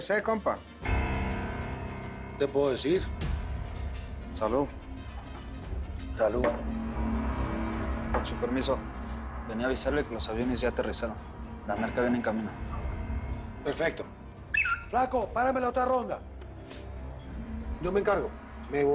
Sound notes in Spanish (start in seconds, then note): 14.5 Silbido